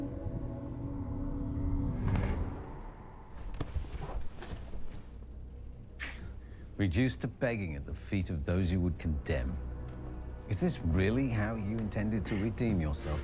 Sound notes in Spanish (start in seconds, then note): 5.9 Se burla